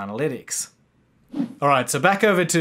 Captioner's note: swishes